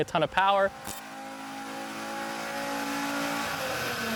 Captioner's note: engine revving